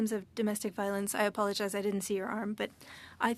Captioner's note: speaking French